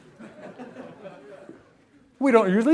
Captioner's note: laughter